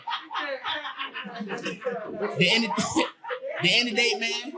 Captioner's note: audience laughing